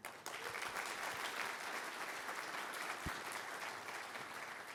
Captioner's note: applause